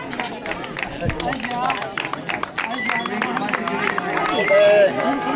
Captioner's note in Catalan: Aplaudiments i renou A dues vegades